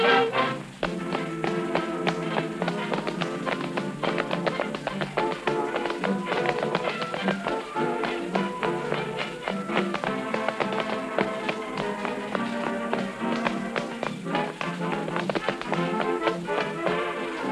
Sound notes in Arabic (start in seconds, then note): 0.9 صوت نقر الأحذية